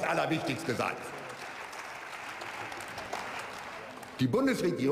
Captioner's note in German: Beifall